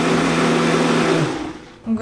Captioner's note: blending